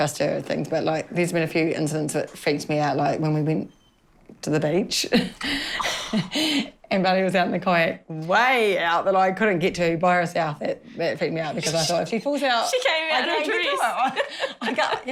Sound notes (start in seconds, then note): 5.3 chuckles